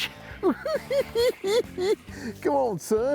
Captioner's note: cackling